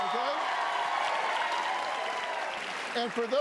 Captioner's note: cheers and applause